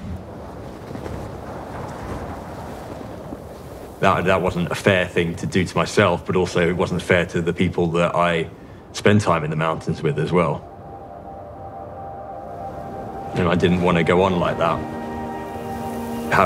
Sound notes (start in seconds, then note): 0.3 wind whistling across the mountain; 2.0 boots kicking into the deep snow